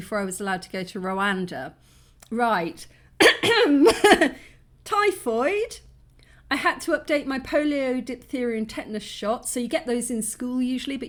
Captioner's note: clears throat